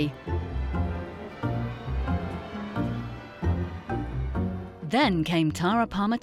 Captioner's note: dramatic music; bells tolling